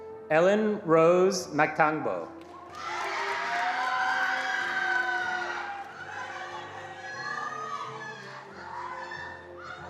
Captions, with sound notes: - Ellen Rose Matango. (attendees cheering and applauding)